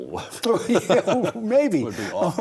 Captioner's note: both laugh